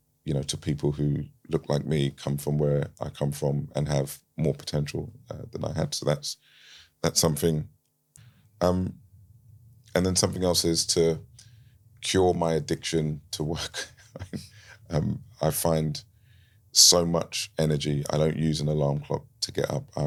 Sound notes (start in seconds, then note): 14.0 laughs